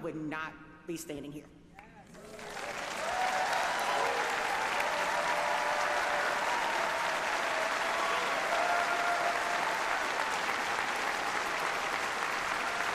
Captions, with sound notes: WITHOUT HIM, I WOULD NOT BE STANDING HERE. [APPLAUSE]